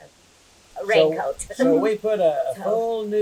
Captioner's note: laughs